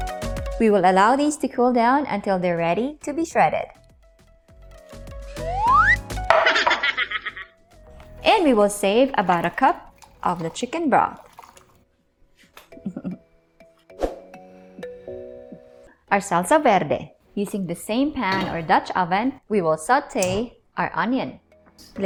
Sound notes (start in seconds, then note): 6.2 plate thuds; 10.9 water trickling; 12.6 chuckles; 20.1 clicks stove